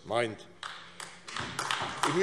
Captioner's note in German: Beifall AfD